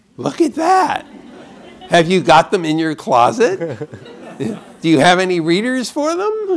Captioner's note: laughter; laughter